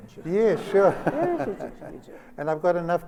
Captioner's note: laughter